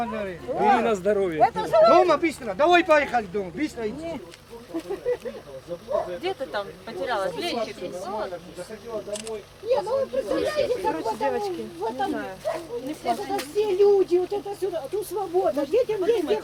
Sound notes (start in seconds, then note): 4.2 group talk in background; 9.1 camera clicks; 13.9 group talk in background